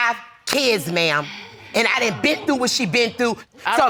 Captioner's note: audience exclaims